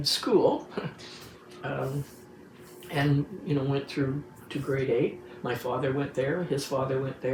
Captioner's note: chuckles